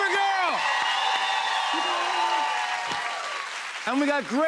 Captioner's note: cheers and applause